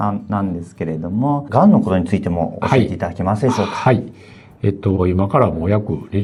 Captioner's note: laughs